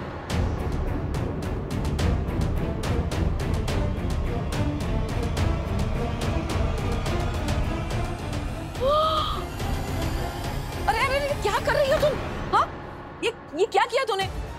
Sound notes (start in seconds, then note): 0.1 pensive music playing; 8.6 gasps